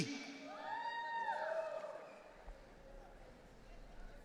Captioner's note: audience cheering